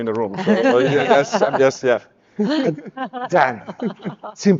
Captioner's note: speakers laughing